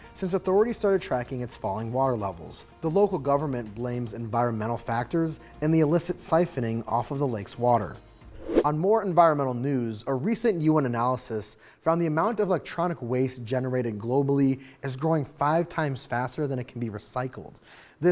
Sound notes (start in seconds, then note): 8.2 screen whooshing